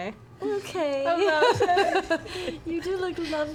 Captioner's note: laughs